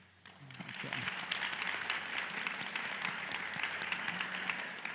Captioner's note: audience applauds